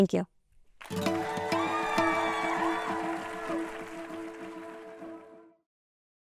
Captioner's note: applause and cheering